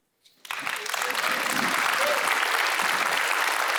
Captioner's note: applause